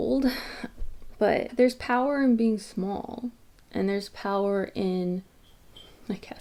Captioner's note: jingling, off screen